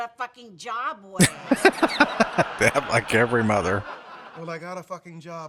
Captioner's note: laughing